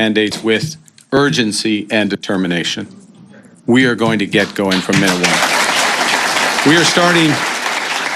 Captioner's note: applause